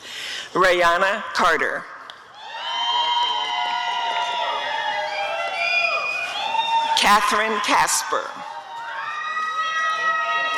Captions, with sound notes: Rayanna Carter [applause and cheering] Catherine Casper [audience cheering]